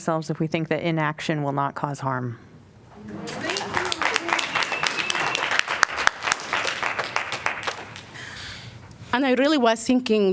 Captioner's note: applause